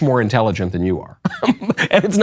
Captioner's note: laughs